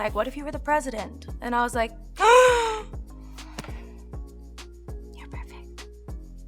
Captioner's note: gasps